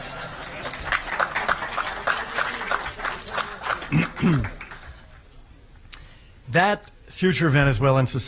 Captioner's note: audience laughing and applauding